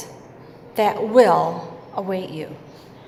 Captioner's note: none